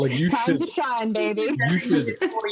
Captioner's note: laughter